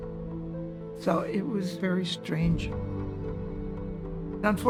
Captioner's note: none